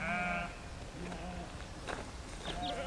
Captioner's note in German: Blöken